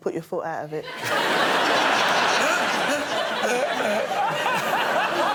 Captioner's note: laughter